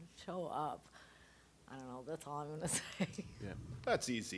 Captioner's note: laughing